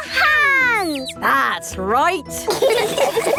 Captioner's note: all laughing